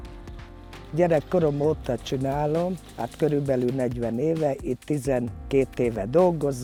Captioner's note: worker speaks in Hungarian